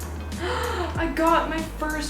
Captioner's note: gasp